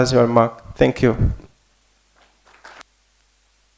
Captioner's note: applause